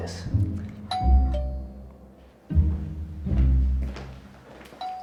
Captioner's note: doorbell rings